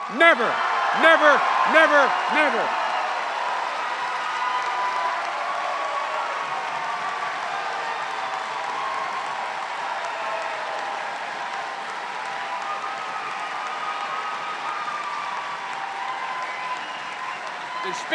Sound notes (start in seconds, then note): 3.4 cheers and applause